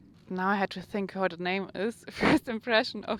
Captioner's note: chuckles